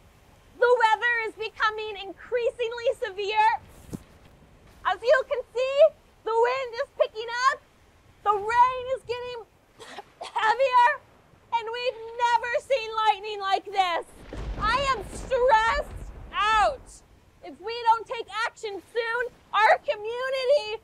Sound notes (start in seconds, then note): 14.0 lightning crashing